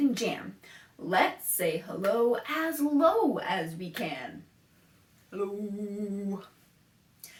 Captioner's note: low-pitched